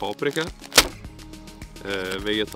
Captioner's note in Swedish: smack!